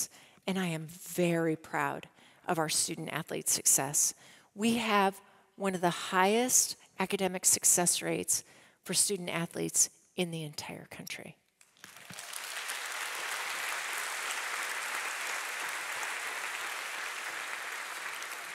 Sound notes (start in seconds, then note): 11.7 audience applauding